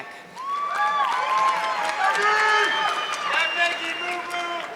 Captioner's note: audience clapping